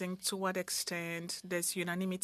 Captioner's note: speaking French